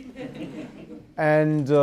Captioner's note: audience laugh